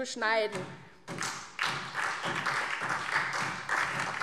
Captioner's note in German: Beifall SPD und DIE LINKE